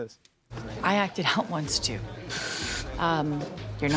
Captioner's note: hissing